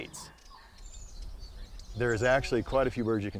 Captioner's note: birds chirp